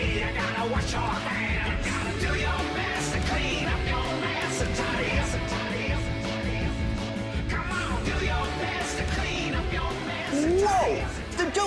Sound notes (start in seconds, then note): 8.5 echoes; 11.2 echoes